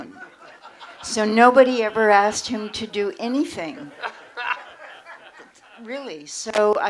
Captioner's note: laughter